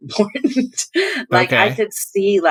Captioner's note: laughter